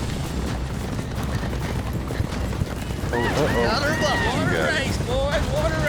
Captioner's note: fast hoofbeats